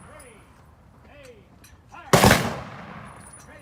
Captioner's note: gunshots